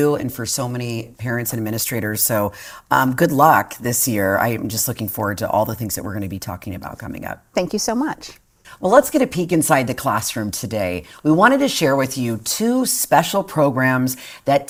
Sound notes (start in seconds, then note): none